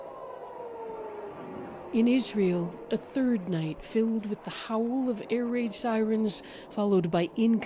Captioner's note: sirens